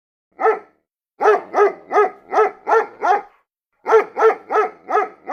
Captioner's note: dogs barking